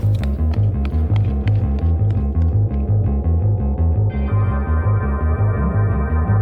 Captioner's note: tense music intensifies; wind howls